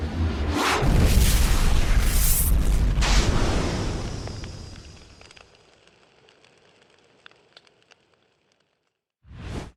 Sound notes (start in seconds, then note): 0.4 explosion blasting; 4.3 fire crackling